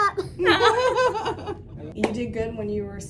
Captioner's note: all laughing